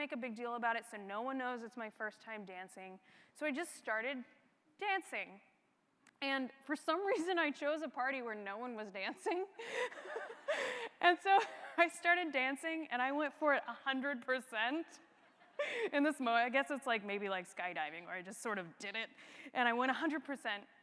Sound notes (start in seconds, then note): 9.6 laugh